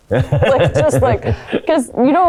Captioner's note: Paul chuckling